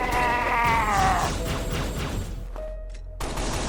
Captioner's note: alien war cry